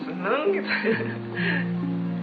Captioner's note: laughing